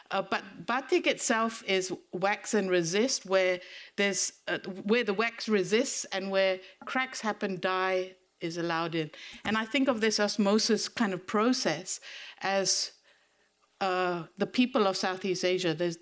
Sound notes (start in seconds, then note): none